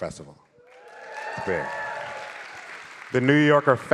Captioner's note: audience cheering